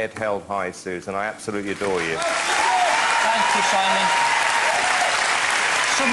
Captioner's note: applause